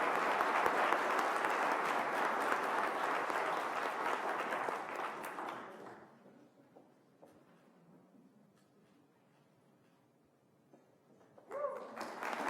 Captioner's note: applause